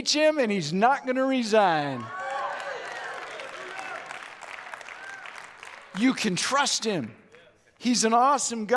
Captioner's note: audience Cheers